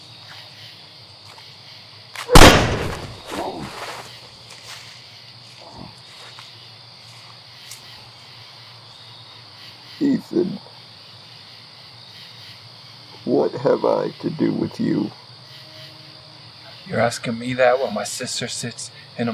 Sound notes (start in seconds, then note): 2.3 gunshot